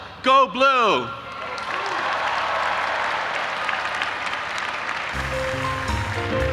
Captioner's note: audience applauding and cheering; upbeat music